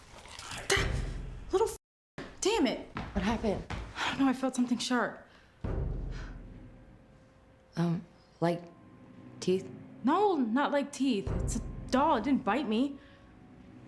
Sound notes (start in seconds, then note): 0.8 gasps; 6.1 sinister music